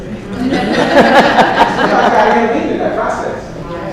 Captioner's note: laughter